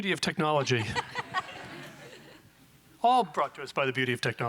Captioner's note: audience laughing